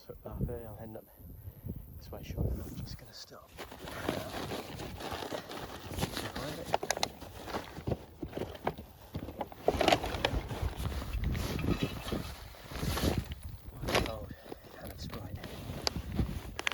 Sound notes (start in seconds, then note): 3.5 bag rustles